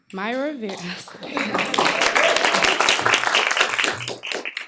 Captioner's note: applause